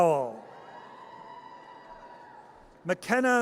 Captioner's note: audience cheers